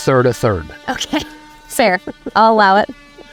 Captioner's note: chuckles